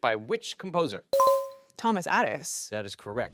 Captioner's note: bell dinging